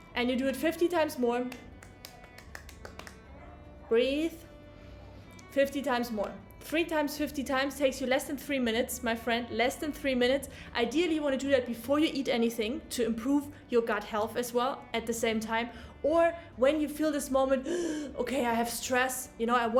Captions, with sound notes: and you do it 50 times more, (taps herself) breathe, 50 times more, three times, 50 times takes you less than three minutes. My friend, less than three minutes. Ideally you wanna do that before you eat anything to improve your gut health as well at the same time, or when you feel this moment, okay, I have stress.